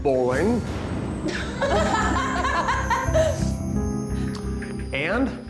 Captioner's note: contestants laughing